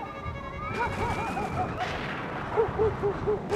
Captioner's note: thunder Crashing; dog Barking